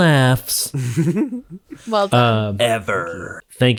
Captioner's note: laughing